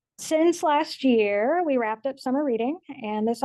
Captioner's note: none